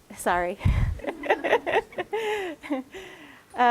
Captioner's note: laughter